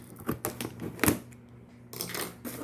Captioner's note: snip of scissors